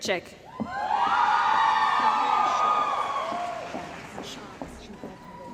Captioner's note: cheering & Applause